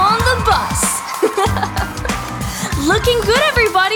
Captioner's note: narrator giggling